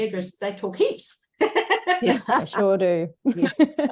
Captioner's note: all laugh